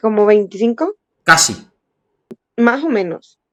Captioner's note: Spanish